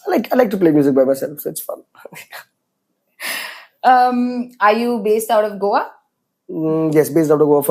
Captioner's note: laughs